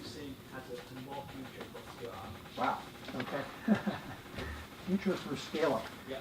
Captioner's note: laugh